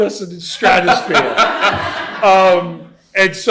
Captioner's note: laughter